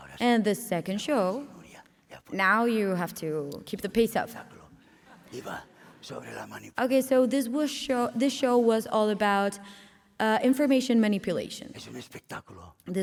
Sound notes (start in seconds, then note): 1.6 speaking spanish